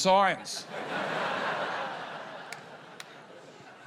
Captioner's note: laughter